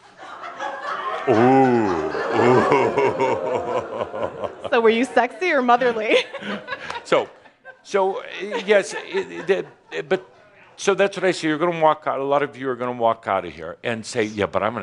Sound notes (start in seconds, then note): 0.1 more laughter; 1.1 audience says “Ooooh” also